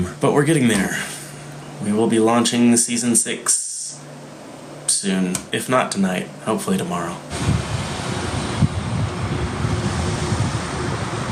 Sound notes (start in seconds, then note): 7.3 cars passing